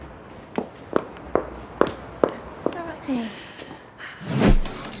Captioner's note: footsteps approaching